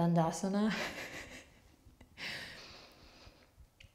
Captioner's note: laughs